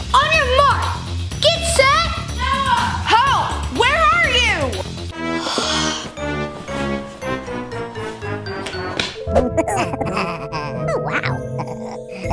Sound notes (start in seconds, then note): 5.4 sighs; 6.9 playful music; 9.2 elf chuckles